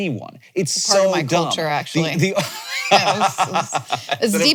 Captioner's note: laughs